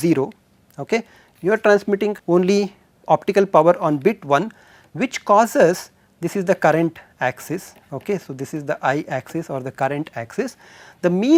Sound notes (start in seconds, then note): 3.1 thermal noise